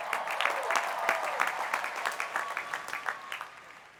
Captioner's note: cheers and applause